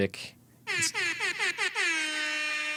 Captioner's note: horn honking